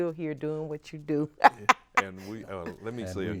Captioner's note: laughs